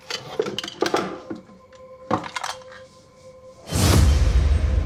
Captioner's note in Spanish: Sonido al manipular el arma